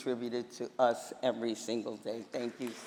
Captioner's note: applause